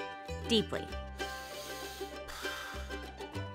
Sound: breathing

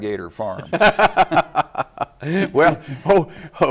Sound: laugh

